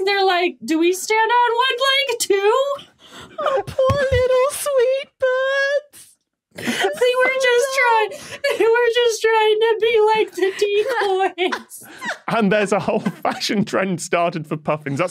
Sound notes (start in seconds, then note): 6.5 both sobbing